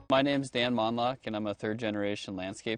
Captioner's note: voiceover